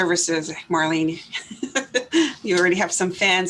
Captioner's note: laughs